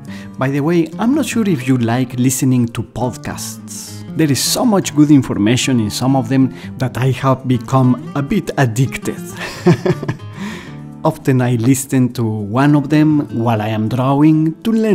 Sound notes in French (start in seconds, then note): 9.3 rires